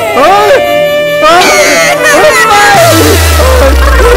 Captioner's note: Vishwas exclaims; Khushi cries